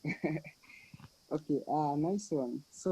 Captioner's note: laughs